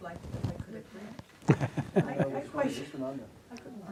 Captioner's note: attendees chattering